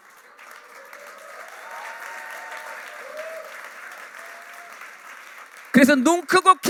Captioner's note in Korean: 박수